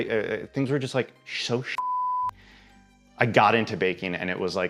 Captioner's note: beep